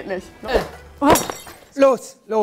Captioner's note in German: Klirren